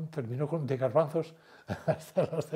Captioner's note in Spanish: Ríe